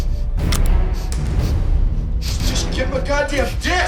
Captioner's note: gun cocks